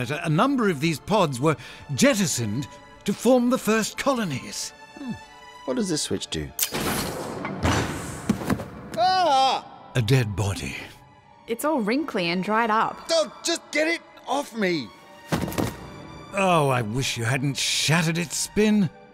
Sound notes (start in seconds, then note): 8.9 Spin yelps; 15.3 corpse falls and shatters